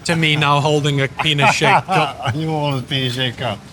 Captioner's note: laughs